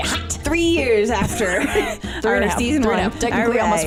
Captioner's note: laughing